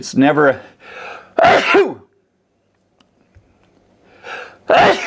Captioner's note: sneezing